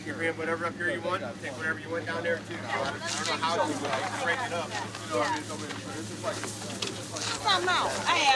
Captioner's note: volunteers talking